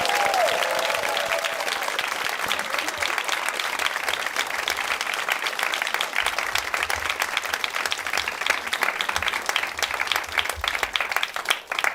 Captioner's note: cheers and applause